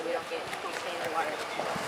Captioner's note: soft talking